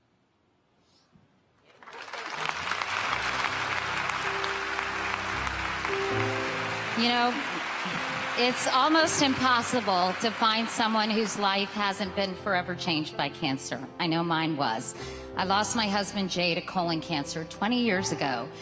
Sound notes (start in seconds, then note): 8.1 applause